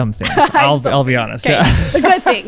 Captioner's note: laughs